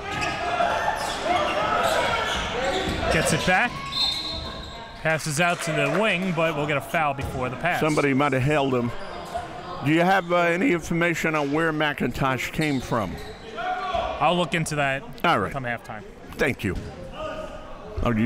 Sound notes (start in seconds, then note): 3.8 whistle blows